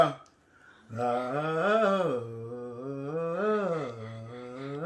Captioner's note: humming